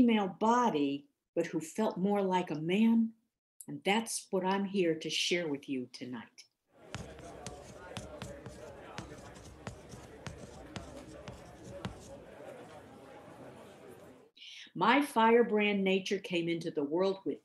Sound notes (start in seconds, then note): 6.8 back ground chatter; 6.9 chalk scribbling in board